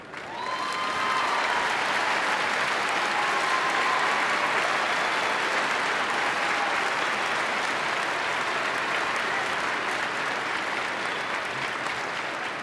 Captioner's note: applause